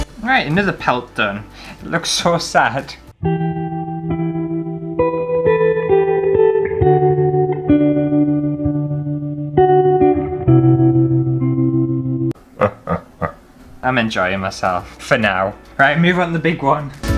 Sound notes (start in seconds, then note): 3.2 sad Music; 12.5 evil Laughter